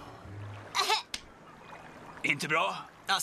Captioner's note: sighs; groans